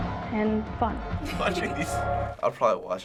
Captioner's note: laughing